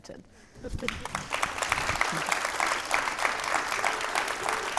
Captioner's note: audience applauding